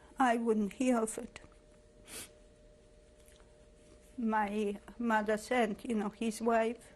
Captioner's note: pauses for 3 seconds